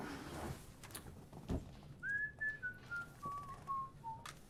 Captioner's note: Tom whistling